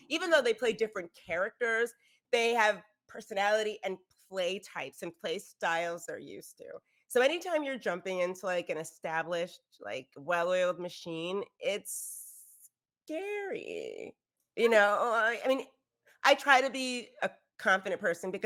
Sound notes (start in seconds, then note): none